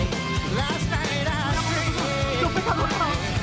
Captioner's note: praying in spanish